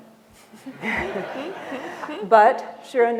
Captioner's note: laughter